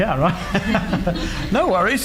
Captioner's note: laughs